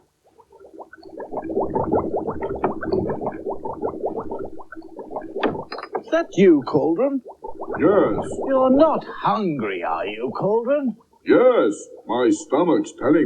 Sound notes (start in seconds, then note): 1.4 cauldron Bubbles Loudly